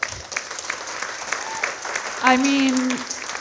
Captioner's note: audience applauding